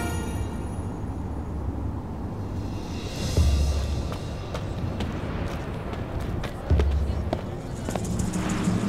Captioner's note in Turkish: Rüzgâr sesi; Müzik - Gerilim